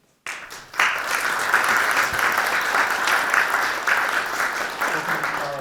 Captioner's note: audience applauding